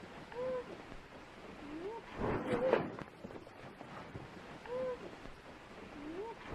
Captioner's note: white noise crackling; voice whooping